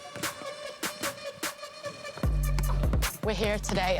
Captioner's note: ball bouncing